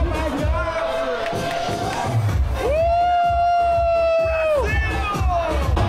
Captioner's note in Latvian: Aplausi